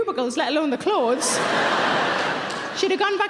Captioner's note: audience laughing